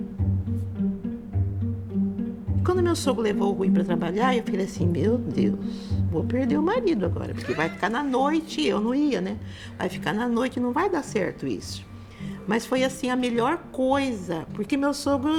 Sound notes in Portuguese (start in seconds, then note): 0.2 música suave; 7.3 riso